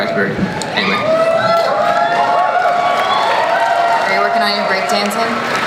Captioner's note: audience cheers